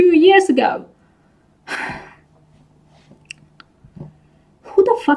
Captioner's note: sighs